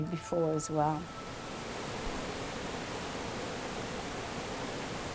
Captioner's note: water roaring